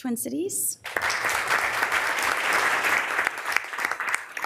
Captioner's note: members applauding